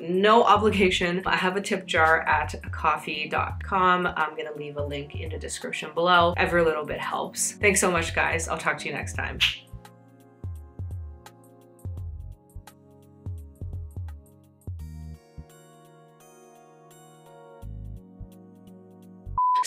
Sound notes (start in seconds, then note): 14.8 finger Snap